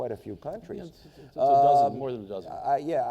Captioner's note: mumbles